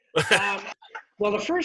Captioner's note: laughs